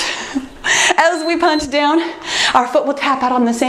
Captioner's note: timer beeps